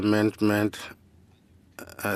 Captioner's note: speaking FRENCH